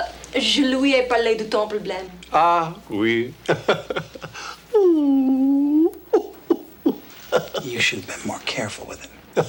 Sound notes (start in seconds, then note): 0.3 Jilly speaks French; 3.4 John chuckles; 4.7 John feigns sobbing; 9.3 John chuckles